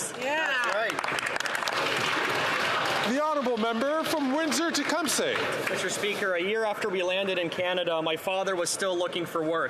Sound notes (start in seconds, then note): 6.3 some Applause